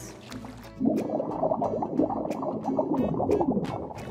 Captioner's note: gurgling